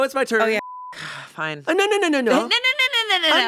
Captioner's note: beep